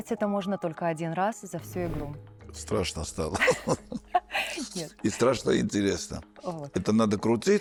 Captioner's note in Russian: смех